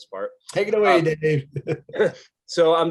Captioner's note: laughs